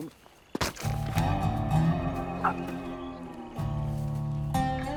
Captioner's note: squish